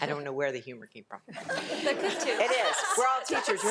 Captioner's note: all laugh